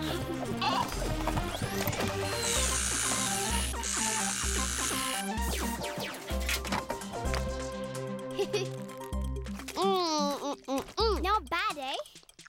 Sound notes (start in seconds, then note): 0.2 bleat; 2.0 buzzing; 8.3 MB chuckles